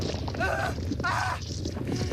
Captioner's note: screams